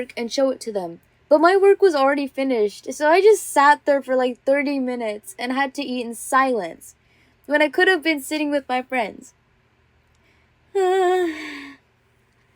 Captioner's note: sigh…